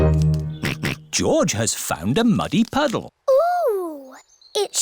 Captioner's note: all laugh; snorts